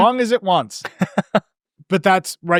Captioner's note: laughing